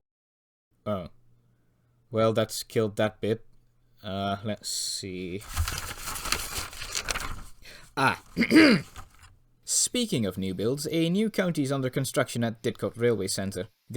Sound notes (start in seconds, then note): 5.2 paper shuffle; 8.3 clear throat